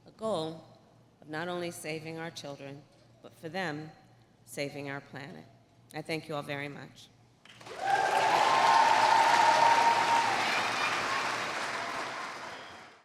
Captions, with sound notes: a goal of not only saving our children, but, for them, saving our planet. I thank you all very much. (Applause.)